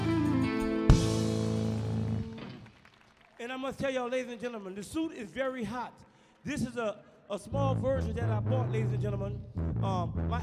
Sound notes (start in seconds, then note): 0.0 music concludes; 1.5 audience clapping softly